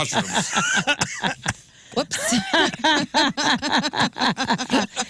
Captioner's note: laughing